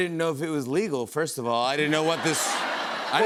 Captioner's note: laughter